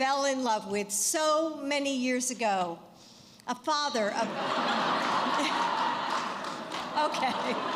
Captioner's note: laughter